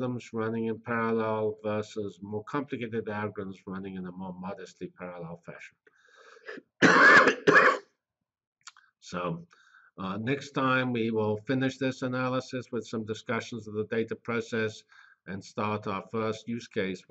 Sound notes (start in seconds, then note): 6.1 pause